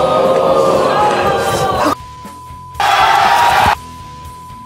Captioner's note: beep; audience cheering